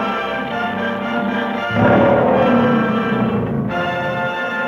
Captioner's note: lion roaring